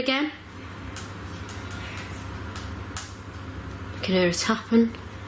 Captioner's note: tapping